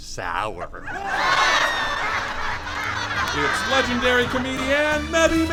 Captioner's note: audience howls